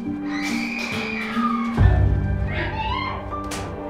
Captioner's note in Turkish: Kadın çığlık atıyor